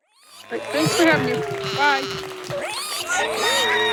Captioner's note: animal applause